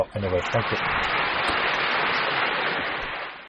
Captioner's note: applause